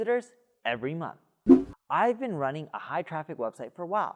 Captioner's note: air whooshing